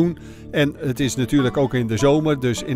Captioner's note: voiceover